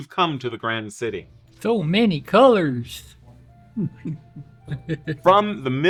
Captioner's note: chuckle